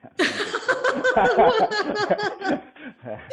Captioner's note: laughs